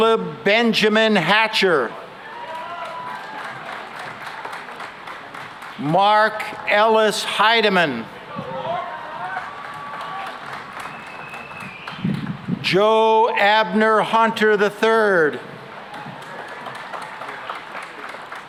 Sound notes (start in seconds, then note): 2.3 applause; 8.2 cheering and applause; 15.8 applause